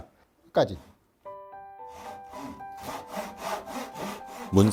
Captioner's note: sawing sound